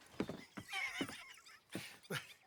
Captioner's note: laughs